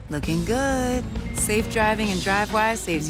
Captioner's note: phone chimes